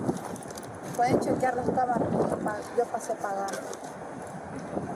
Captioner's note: speak in Foreign language